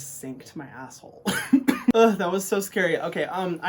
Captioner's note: Hyram coughs